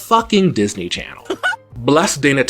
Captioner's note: Mickey Mouse sounding laugh